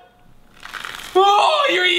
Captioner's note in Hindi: चबाने कि आवाज़